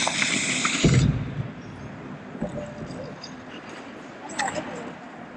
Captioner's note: skates and roof noise